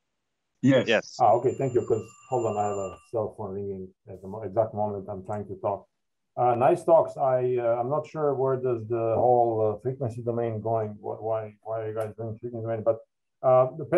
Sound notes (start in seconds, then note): 1.3 cell phone ringing